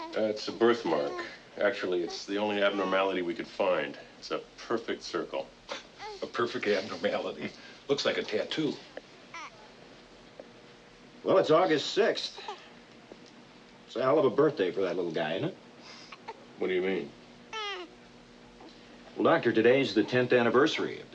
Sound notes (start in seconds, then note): 17.5 baby sounds